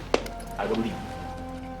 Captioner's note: clap